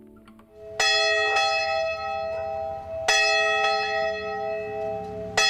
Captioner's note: church bell ringing